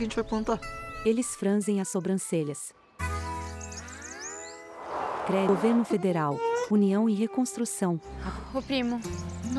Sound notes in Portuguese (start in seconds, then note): 5.5 Pássaros